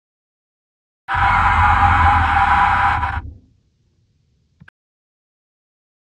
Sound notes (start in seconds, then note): 1.1 sound of ghost scream